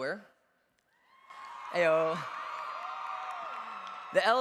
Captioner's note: cheers